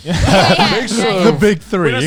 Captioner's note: all laughing